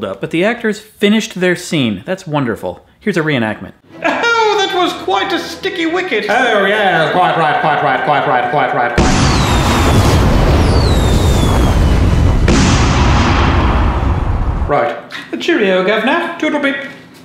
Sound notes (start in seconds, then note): 3.8 violins; 9.0 explosion noises, firework noises